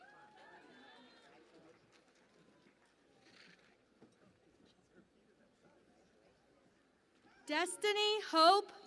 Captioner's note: cheering and Applause